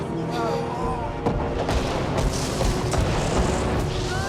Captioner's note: series of explosions